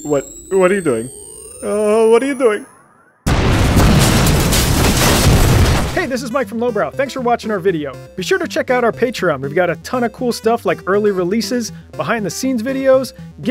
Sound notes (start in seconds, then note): 3.2 loud explosion